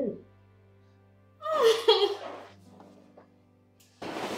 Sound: woman cheers

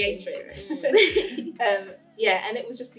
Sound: laughter

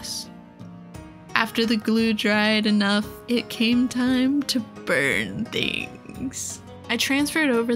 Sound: dramatically

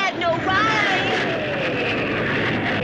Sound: plane engine whirring

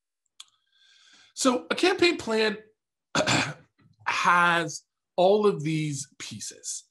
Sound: coughs

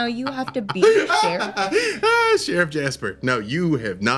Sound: laughter

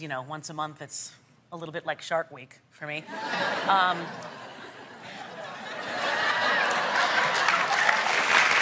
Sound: laughter

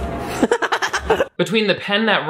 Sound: laughs

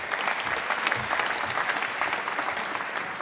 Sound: applause

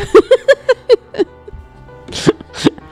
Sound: laugh

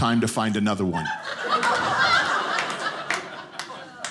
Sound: audience laughing

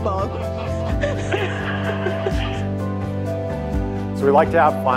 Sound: audience laughing

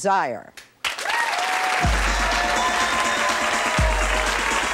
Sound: audience applauding

